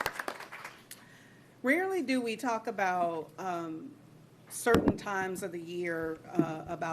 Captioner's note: applause